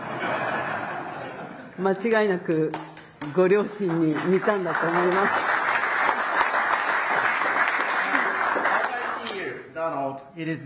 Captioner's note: applause